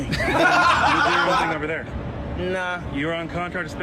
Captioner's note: both laughing